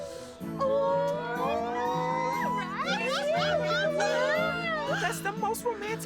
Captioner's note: excited Chatter